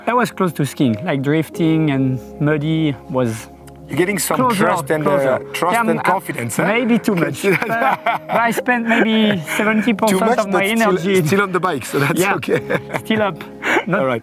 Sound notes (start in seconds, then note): 7.9 laughs